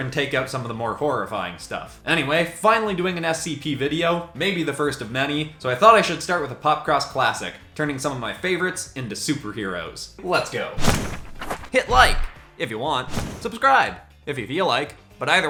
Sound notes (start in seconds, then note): 13.0 screen whooshes